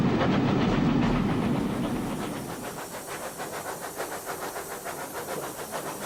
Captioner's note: train passes